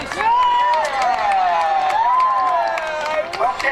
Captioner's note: cheering